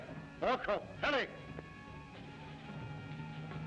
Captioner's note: non-english speech